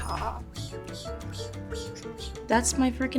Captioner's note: Ayo mimicking pepper pot grinding